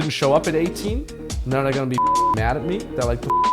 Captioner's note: beep